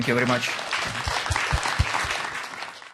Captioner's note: applause